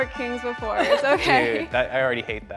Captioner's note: laughter